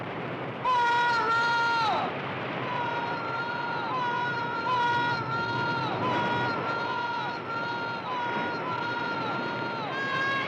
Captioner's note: voice echoes